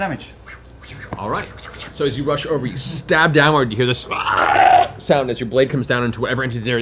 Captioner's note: gurgle